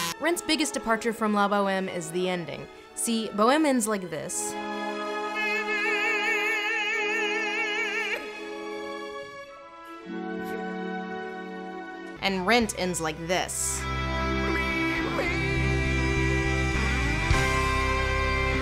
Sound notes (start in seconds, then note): 8.0 choked sob